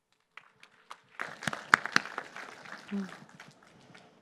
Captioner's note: applause